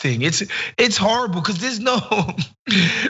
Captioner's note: laugh